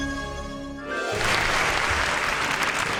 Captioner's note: audience applauding